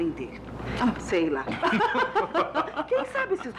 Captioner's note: all Laughing